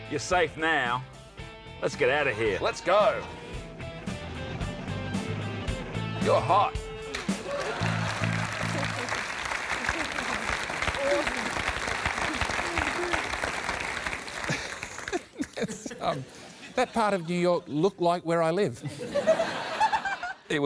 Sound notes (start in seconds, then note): 15.2 laughs